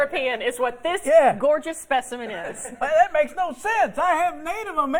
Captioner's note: laughter